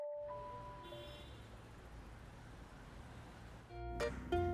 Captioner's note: traffic and Sirens